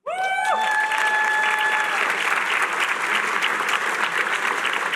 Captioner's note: applause